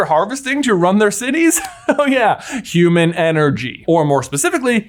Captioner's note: laughs